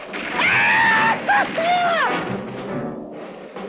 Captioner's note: hooting